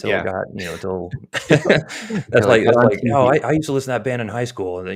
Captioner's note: chuckles